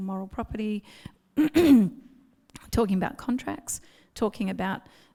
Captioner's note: clears throat